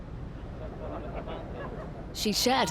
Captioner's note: people chattering